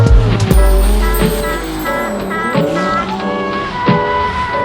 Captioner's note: car engines roaring